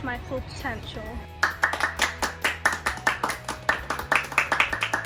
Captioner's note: clapping